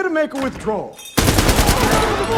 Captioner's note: gunshots